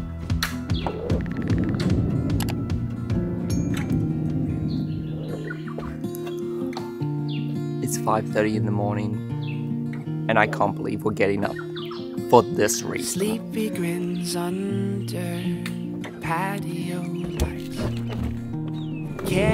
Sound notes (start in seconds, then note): 0.6 upbeat music; 0.7 bird twitters; 2.5 mouse clicks; 3.5 bell rings; 4.0 bird twitters; 5.2 guitar music